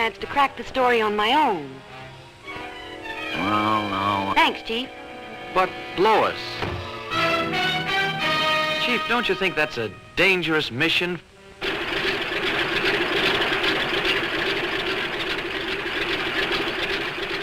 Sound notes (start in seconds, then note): 11.9 propellor whirs